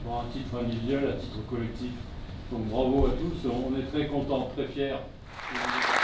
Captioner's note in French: applaudissements